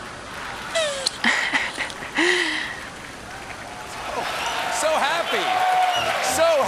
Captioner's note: laughing